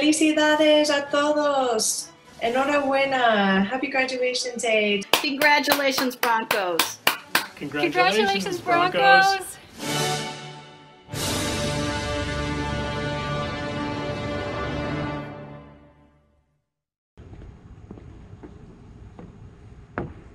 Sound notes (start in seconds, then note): 5.0 clapping